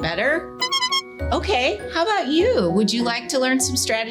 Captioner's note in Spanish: pitido de bocina optimista